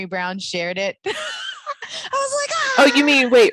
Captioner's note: chuckles